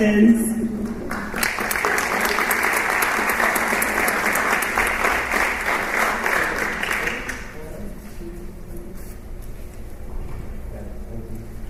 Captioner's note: applause